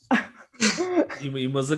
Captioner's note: laugh